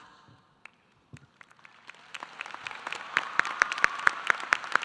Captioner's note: audience applauding